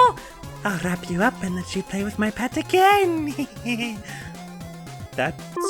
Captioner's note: sinister giggle